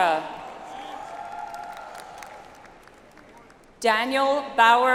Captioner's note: audience applauds